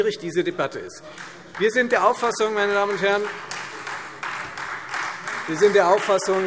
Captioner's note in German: Beifall Freie Demokraten